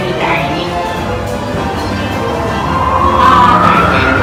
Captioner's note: the wind is blowing